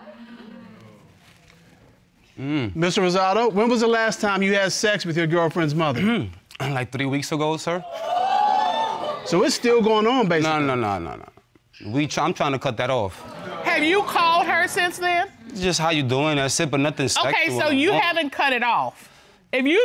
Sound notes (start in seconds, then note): 6.3 clearing throat; 7.8 audience exclaiming